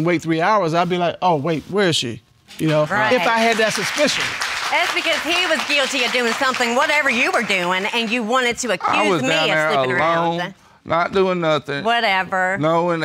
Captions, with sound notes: I wouldn't wait three hours. I'd be like, "Oh wait. Where is she?" You know? If I had that suspicion. (AUDIENCE APPLAUDING) It's because he was guilty of doin' somethin'. Whatever you were doin'. And you wanted to accuse me of sleepin' around. I was down there alone. Not doin' nothin' Whatever.